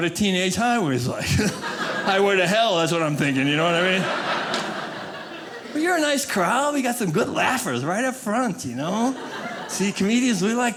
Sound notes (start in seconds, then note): 4.2 audience laughing; 8.9 audience laughing